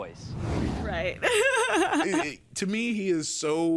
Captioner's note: laughs